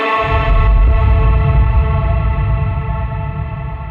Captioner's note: thunder rolling